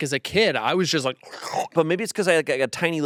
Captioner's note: gulps